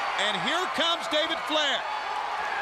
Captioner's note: crowd cheering